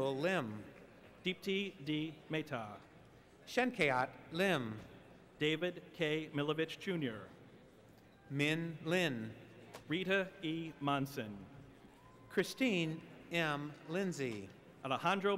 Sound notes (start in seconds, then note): none